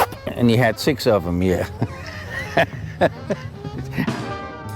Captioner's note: laughs